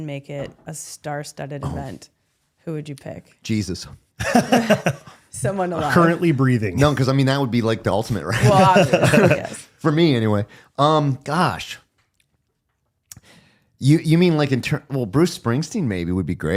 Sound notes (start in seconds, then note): 4.2 laughing